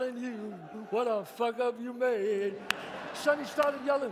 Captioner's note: audience laughs